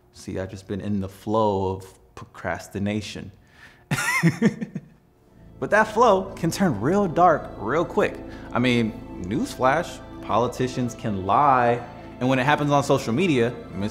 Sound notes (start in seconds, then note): 4.0 laughs